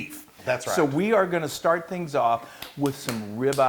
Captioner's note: applause